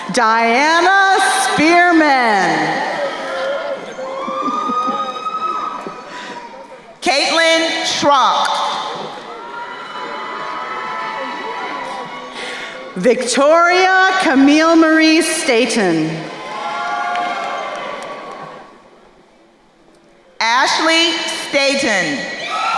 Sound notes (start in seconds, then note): 3.4 crowd cheering; 9.4 crowd cheering; 15.9 crowd cheering